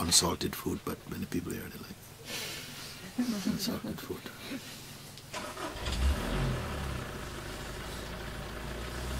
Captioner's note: γέλια